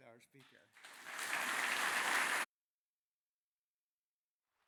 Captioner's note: audience applauds